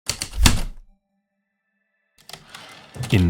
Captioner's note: heavy typewriter keystrokes then return slide